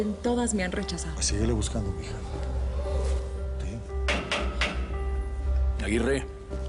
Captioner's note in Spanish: Golpes en la reja